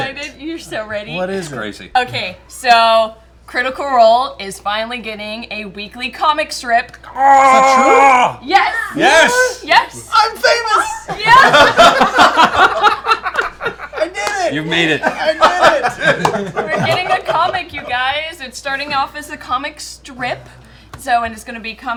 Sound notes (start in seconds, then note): 11.0 laughter